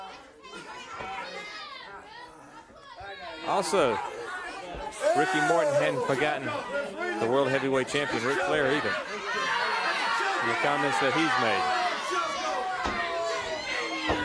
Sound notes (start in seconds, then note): 0.3 crowd chatter; 10.3 crowd chatter